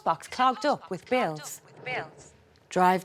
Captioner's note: words echo